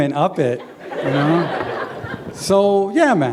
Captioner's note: laughter